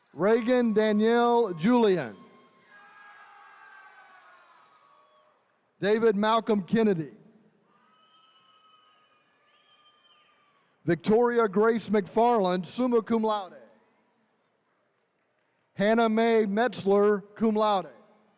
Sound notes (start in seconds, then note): 2.5 attendees cheering; 7.7 attendees cheering